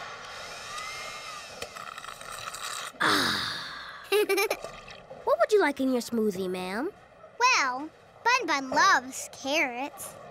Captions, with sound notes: [sighs] [giggles] What would you like in your smoothie, ma'am? Well, Bun-Bun loves carrots.